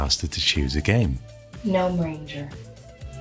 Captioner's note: computer talking